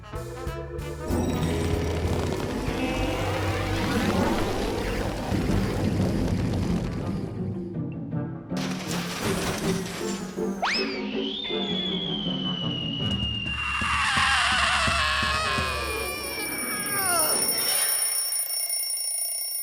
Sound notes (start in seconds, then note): 2.7 freeze noises; 8.9 whirring sputters; 15.8 alarm rings